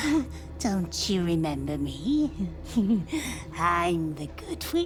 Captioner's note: laughs